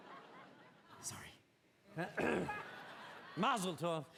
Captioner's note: joe clears throat